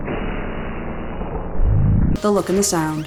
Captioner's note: whoooooooosh